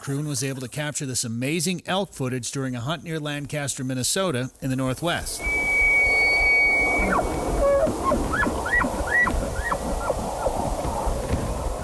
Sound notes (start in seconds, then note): 4.4 elk bugling